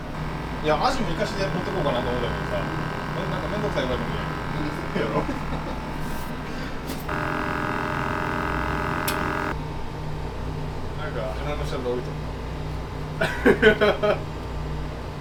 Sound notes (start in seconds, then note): 3.8 laugh